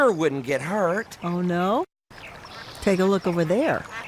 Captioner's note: goose honking